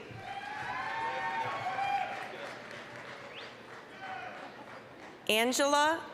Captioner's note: applause, cheering